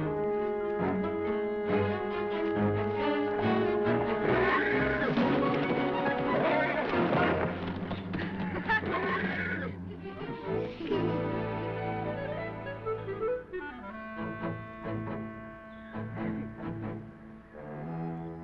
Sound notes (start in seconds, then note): 4.0 horse whinnying; 8.3 laughing